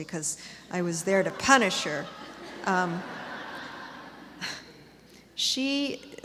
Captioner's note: laughter